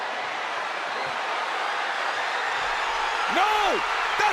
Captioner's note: crowd cheers